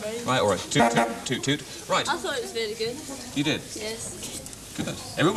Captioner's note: parping horn